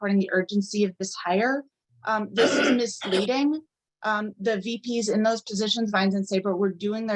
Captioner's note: ahem